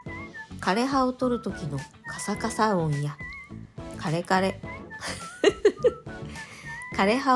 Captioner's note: laughing